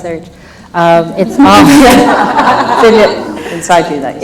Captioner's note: laughs